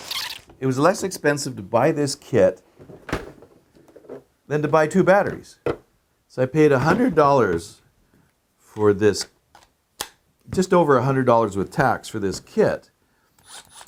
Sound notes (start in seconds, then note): 10.1 battery clicks; 13.4 driver whirs